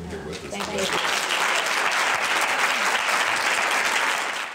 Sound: applause

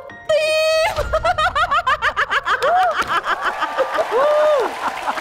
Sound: laughing

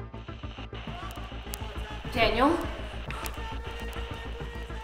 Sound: static crackling

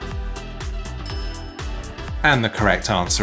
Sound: bell clinking

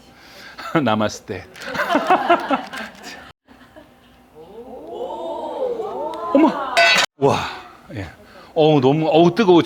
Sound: laughs

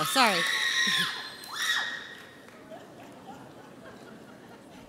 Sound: audience member screams

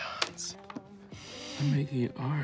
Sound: sniffs

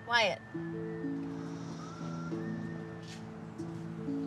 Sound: snoring

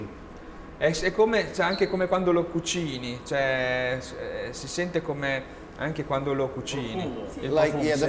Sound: speaking Italian

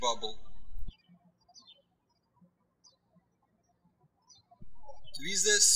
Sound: birds chirping

